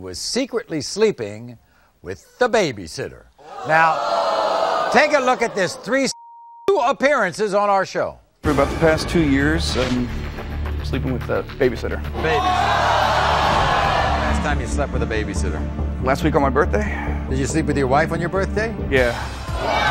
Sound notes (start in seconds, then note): 3.4 audience screaming; 12.2 audience screaming; 19.1 audience screaming